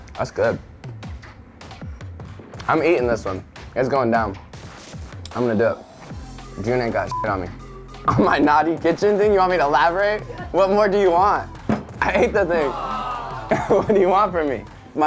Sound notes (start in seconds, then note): 7.1 beep; 12.4 awing